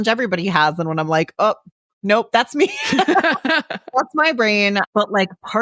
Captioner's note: laughs